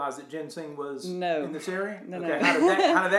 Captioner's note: laughs